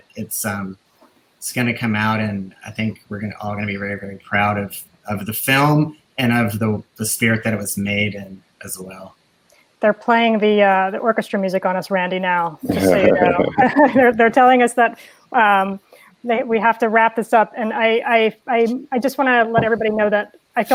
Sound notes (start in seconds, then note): 14.5 laughing